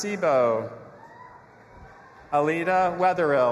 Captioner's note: audience applauding and cheering